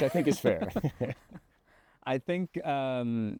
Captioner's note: both laughing